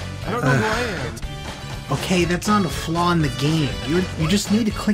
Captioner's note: sighs